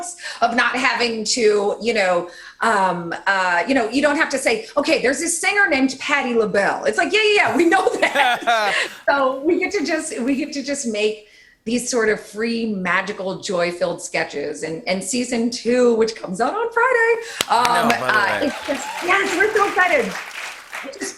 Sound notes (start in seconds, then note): 7.4 both laugh; 17.4 cheers and applause